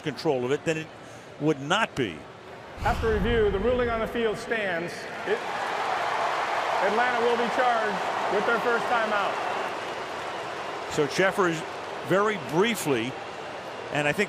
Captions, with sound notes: If it alters control of it, then it would not be. After review, the ruling on the field stands. It-- [cheering] Atlanta will be charged with their first timeout. [booing] So Cheffers very briefly.